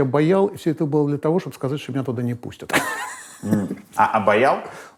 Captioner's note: laughs